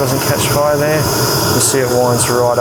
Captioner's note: flame whooshes